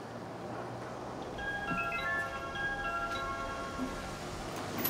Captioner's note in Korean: 초인종 소리